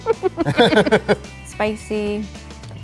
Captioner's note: giggling; laughing